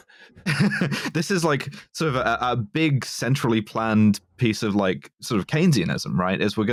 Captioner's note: laughs